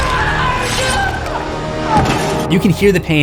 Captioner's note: screams